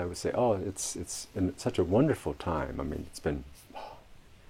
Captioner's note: atmet aus